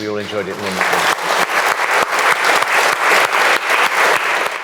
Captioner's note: audience applauding